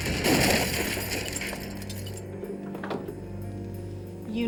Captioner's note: glass breaking